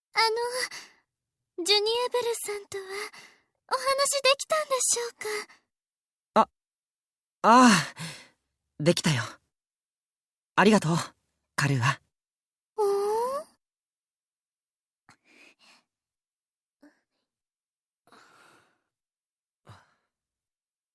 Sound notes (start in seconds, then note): 14.4 silence; 15.8 silence; 20.2 silence